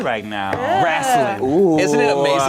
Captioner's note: overlapping chattering